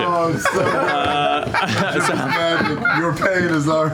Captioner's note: laughter